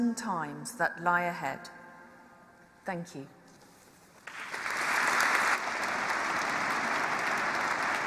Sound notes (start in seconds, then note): 4.2 applause